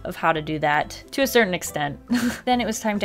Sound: chuckles

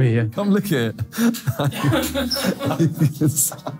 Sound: laughs

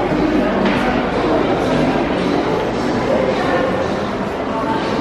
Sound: people chatting

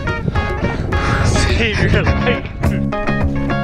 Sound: panting

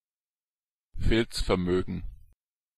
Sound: fast Pronunciation

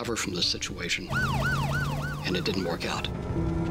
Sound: sirens blaring

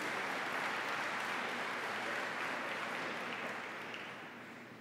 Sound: applause

